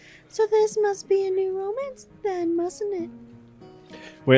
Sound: none

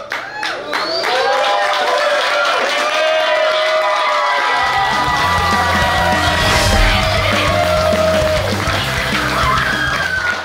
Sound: clapping & Cheering

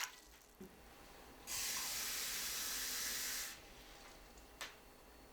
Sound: SFX: Pouring water; SFX: Water running

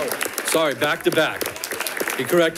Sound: audience applauding

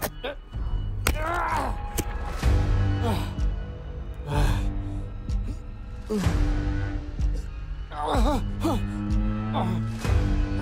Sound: heavy breathing struggling

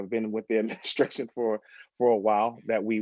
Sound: laughter

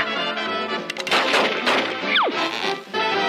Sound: hand clapping; revolvers shooting; upbeat music

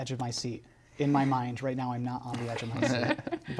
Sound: laughs

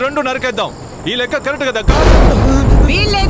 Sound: thunder rumbling

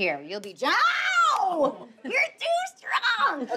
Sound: slaps hand

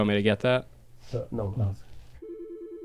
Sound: phone ringing

